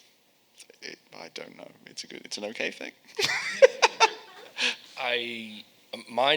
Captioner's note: laughing